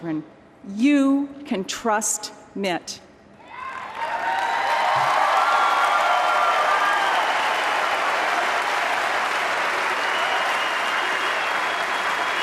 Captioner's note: applause